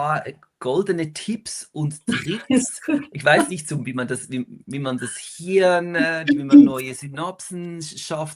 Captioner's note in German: gelächter